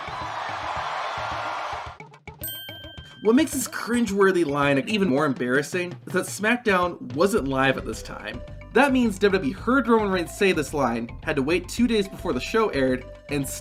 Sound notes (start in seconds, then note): 0.0 crowd cheering; 2.4 bell tinging